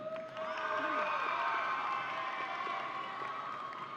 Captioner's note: audience cheering